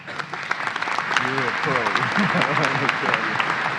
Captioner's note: applause